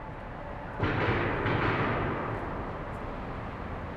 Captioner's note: distant clanging